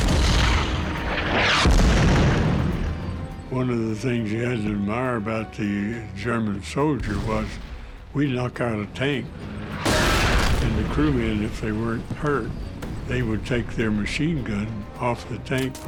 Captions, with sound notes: (shells exploding) - One of the things you had to admire about the German soldier was we knock out a tank, (tank explodes) and the crew men, if they weren't hurt, they would take their machine gun off the tank